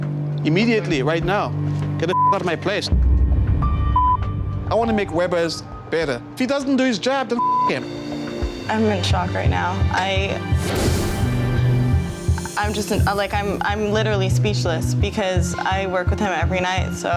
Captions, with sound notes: Immediately, right now. Get the (beep) out of my place. I want to make Weber's better, if he doesn't do his job, then (beep) him. - I'm in shock right now. I'm literally speechless, because I work with him every night,